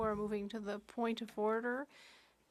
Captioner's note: speaking French